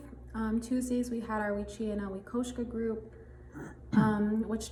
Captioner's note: speaks in foreign language